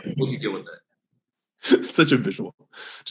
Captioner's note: Alex laughs